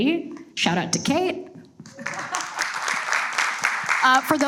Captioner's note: audience applauds